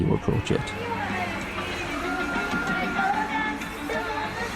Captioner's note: street audio